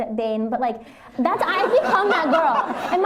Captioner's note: laughter